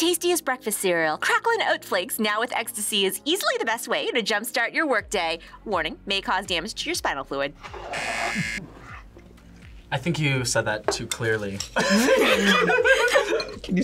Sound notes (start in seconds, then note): 7.9 buzzer rings; 11.8 laughs